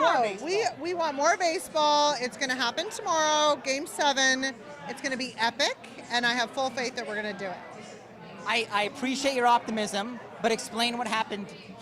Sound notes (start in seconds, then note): none